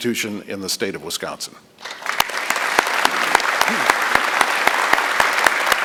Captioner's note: applause